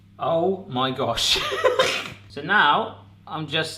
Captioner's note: laughing